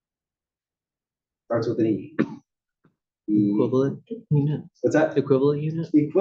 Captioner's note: cough